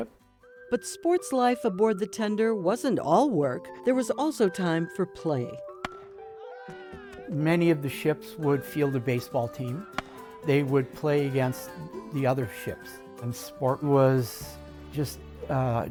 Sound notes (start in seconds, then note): 5.8 bat strikes ball, cheering; 9.8 bat cracks ball